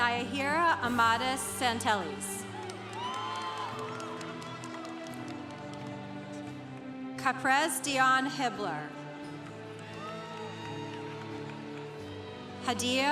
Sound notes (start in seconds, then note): 2.4 congregation applauding; 9.2 congregation applauding